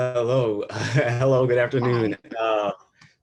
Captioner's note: chuckles